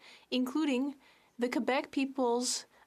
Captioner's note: speaking French